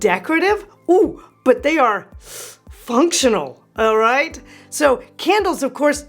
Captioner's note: inhales